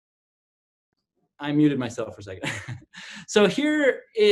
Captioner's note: laughs